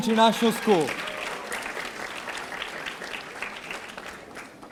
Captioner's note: audience applauding